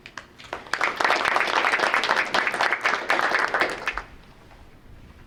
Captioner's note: group applauding